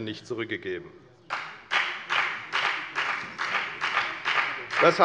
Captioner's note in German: Beifall bei der FDP